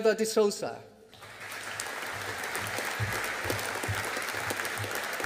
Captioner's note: audience applauding